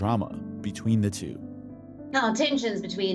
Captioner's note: soundbite of archived recording